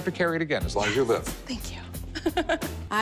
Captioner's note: laughs